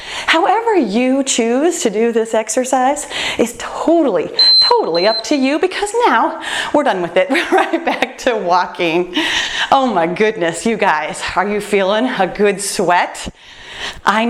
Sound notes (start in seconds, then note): 4.4 timer beeps